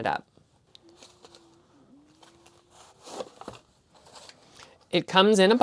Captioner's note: opening sounds